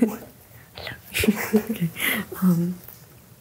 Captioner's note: giggles